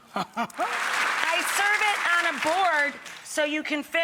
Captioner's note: audience clapping